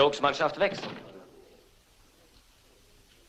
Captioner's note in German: Tür schließt sich